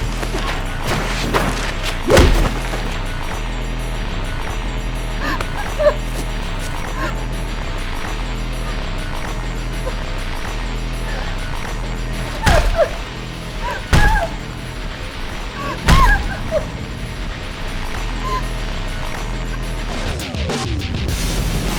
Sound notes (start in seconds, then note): 2.0 foot thuds; 5.2 woman whimpering; 11.9 head thudding; 12.4 woman crying; 18.3 intense heavy metal music